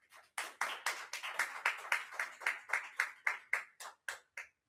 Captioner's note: attendees applaud